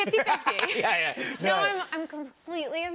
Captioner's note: laughs